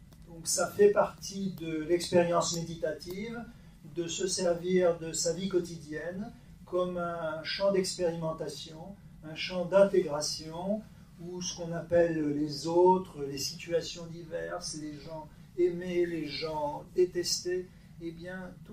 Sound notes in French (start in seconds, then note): none